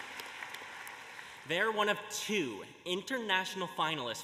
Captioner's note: applause